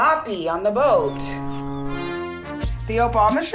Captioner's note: boat horn blowing